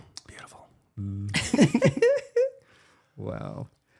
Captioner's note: laughing